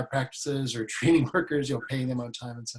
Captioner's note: laughs